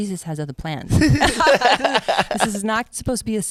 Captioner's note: both laugh